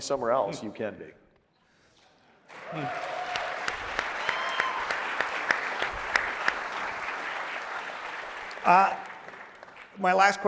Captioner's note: applause